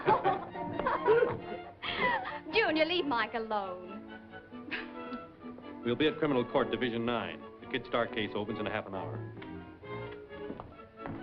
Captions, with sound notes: [LAUGHTER] Junior, leave Mike alone. [CHUCKLES] We'll be at criminal court division nine. The Kid Stark case opens in a half an hour.